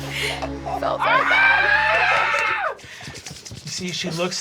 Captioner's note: yelling; laughing; screaming